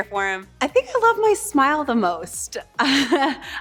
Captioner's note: chuckles